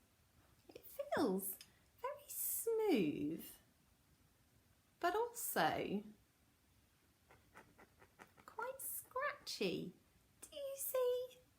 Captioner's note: scratchy noises